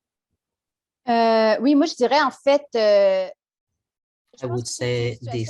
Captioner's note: speaks French